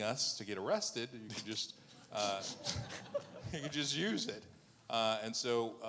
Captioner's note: laughing